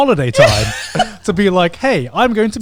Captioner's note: laughs